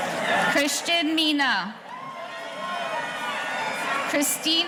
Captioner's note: audience cheering